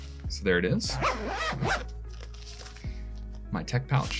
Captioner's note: zips up